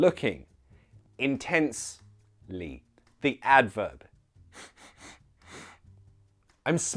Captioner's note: sniffs